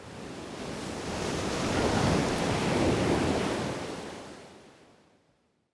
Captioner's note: waves crashing